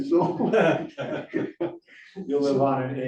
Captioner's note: laughter